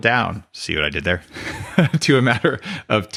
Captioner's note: laughs